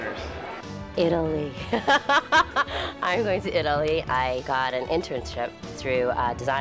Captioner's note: laughs